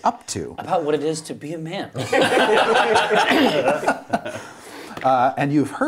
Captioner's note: laughter